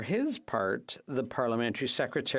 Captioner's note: speaking FRENCH